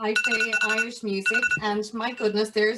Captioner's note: phone rings